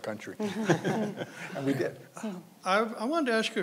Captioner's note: panelists laughing